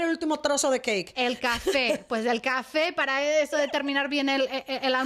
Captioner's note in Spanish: Risas